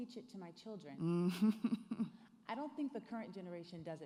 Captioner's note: chuckles